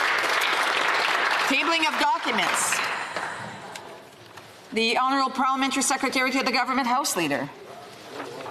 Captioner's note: applause